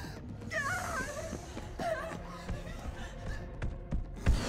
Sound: Caitlyn gasps

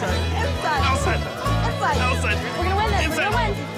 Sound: excited instructions

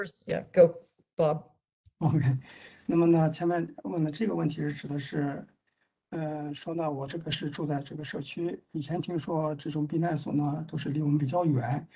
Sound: speaks in Mandarin

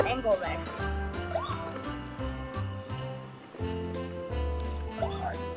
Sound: toy truck siren sounding

